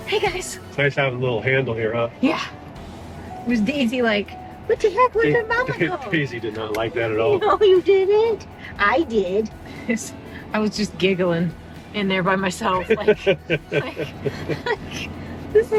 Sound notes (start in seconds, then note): 6.1 chuckles; 12.8 laughs